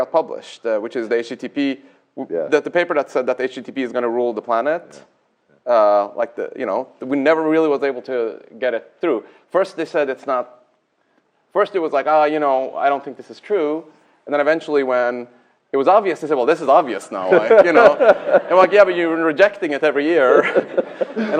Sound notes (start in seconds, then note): 17.2 laughter